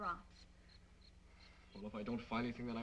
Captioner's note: insects chirping